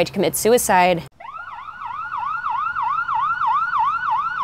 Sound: sirens wail

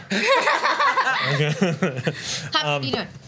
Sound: laughs

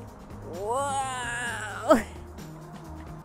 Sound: laughs

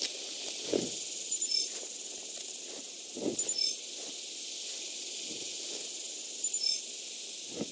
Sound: various beeps

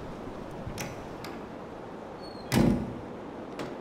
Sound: door opens

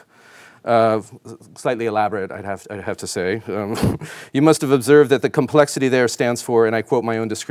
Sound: chuckling

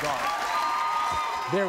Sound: audience cheering

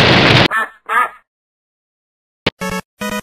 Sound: building explodes; logo quacks; quirky music

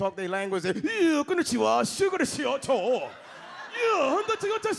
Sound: imitates Japanese

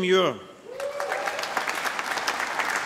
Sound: applause

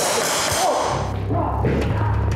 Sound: three rapid gunshots; yells; suspenseful music

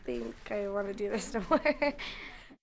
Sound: laughter

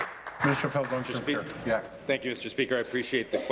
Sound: applause

